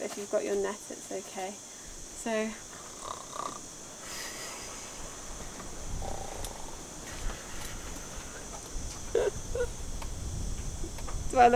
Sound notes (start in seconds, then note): 2.8 snoring; 9.1 chuckling